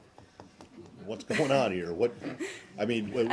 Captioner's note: laughter